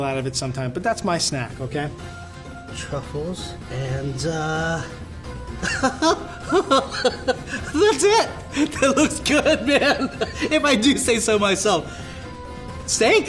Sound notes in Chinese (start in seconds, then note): 5.6 笑聲